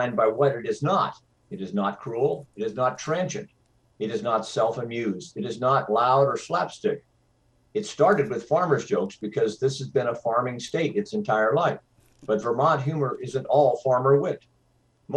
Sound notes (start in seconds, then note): none